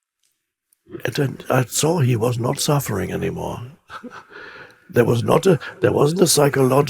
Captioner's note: chuckles